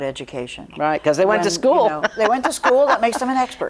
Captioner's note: laughs